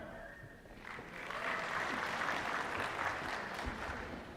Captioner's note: applause